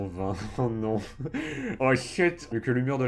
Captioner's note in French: Rires